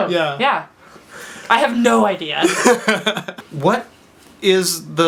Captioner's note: laughs